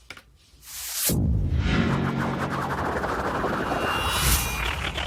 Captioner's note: dramatic tone, whirring